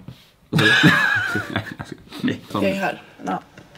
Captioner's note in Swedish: skratt